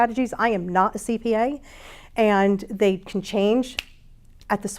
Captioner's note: snaps